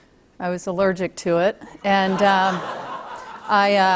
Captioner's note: laughter